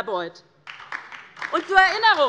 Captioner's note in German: Beifall DIE LINKE